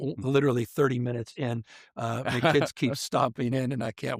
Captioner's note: interviewer laughs